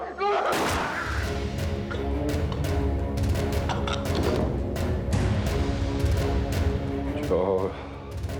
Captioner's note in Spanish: gemidos